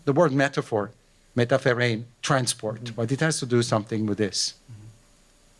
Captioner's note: non-english